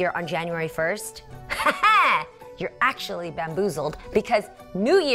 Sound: chuckles

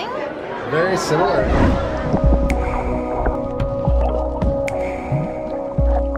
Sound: underwater sounds play

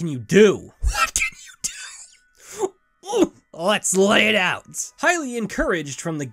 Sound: wheezing

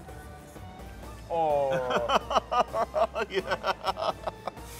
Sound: sighs; laughs

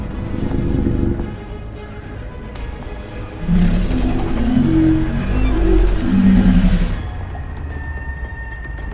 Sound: mosasaurus Sounds

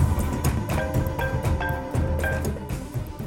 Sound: phone rings

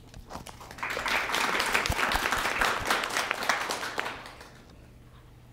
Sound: applause

